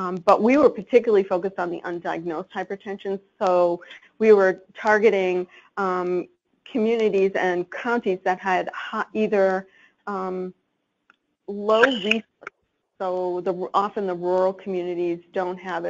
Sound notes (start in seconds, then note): none